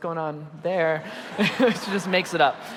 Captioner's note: audience laughing